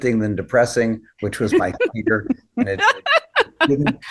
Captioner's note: laughing